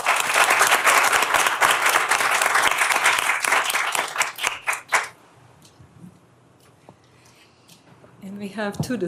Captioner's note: applause